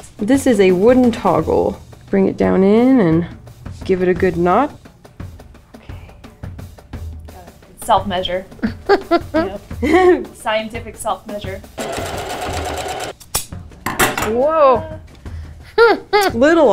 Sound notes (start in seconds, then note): 8.6 laughs; 11.7 sewing machine running; 13.2 scissors snip loudly; 15.6 laughs